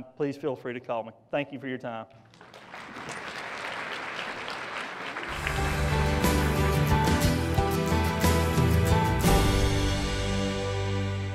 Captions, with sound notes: Please feel free to call me. Thank you for your time. (applause) (uplifting music)